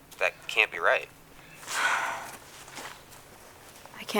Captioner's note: sighs